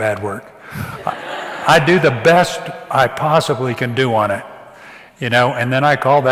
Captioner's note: audience laughs